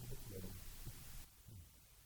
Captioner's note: chuckles